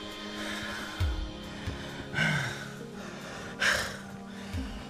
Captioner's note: both men breathe heavily